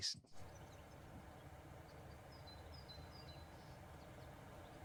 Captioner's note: birds chirping